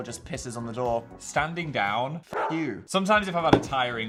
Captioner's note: dog barks